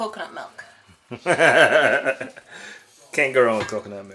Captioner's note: laughter